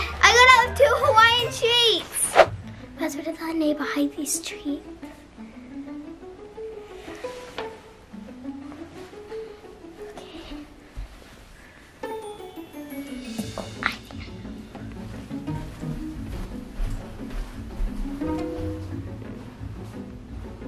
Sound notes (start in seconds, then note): 11.5 whispers; 16.2 whispers; 17.6 fast-paced music